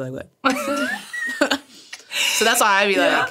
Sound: all laughing

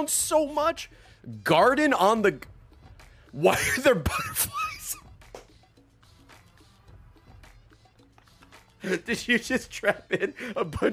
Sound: laughs

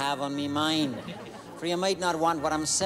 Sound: laughing

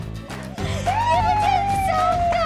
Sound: cheering

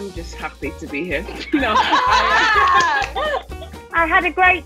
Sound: laughing

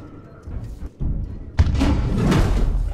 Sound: rumbling in the vents

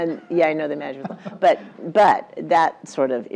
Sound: laugh

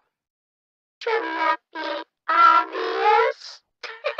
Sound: bit-crushed; laughter

